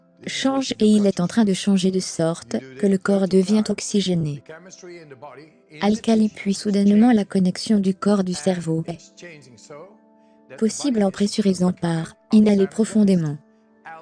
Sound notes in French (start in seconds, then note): 10.1 inhaler profondément